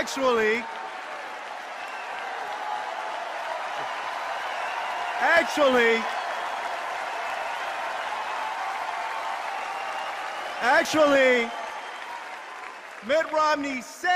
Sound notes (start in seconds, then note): 1.8 laughter and cheers; 7.9 cheers and applause